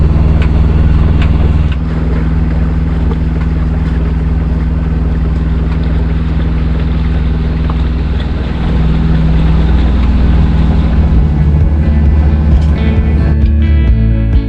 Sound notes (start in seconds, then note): 1.7 ambient sounds of engine and autopilot squeal